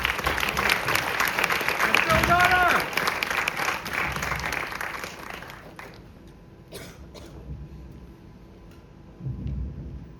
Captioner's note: audience cheer